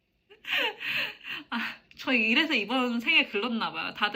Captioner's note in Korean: 웃음